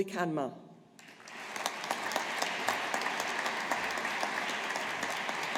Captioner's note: audience applauding